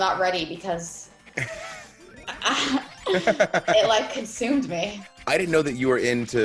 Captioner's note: laugh